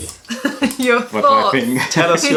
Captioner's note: laughter